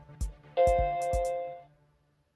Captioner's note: happy mac noises